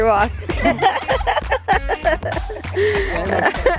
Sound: giggles

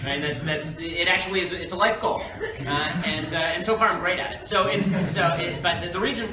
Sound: laughter

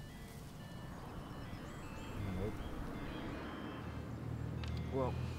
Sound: mobile phone rings

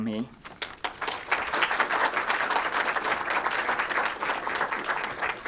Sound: applause

